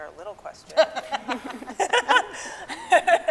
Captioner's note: scientists laughing